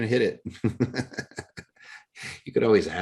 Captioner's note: laughs